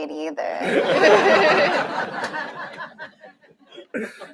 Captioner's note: laughter